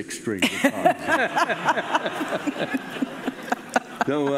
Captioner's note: laughing